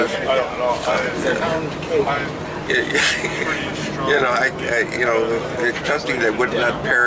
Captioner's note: laughs